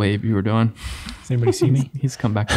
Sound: everyone laughing

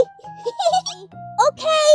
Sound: laughs

